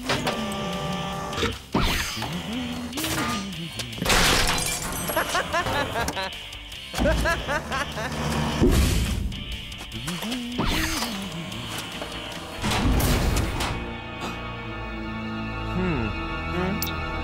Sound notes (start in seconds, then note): 0.1 whirring sound; 4.0 glass shatters; 6.9 laughs; 8.6 thump; 10.5 whirring sound; 12.5 dramatic music playing